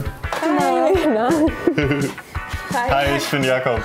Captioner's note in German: Lachen